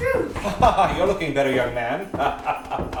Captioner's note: laughing